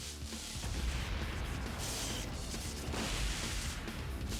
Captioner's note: electricity buzzing